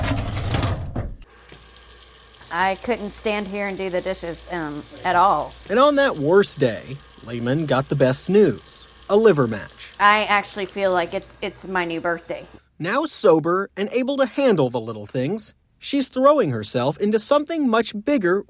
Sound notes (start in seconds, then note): 0.1 dishwasher clatters; 1.5 water splashing